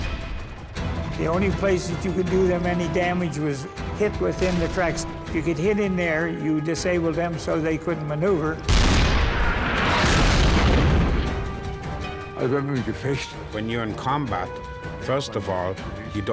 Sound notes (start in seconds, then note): 8.6 cannon firing; 10.2 tank exploding; 12.4 speaking in foreign language